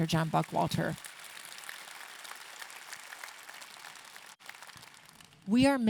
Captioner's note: audience clapping